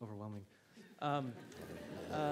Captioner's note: laughter